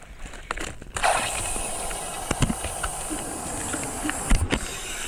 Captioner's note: air rushing